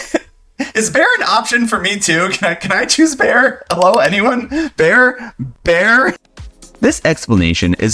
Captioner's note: laughs